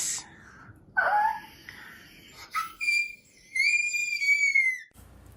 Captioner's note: screams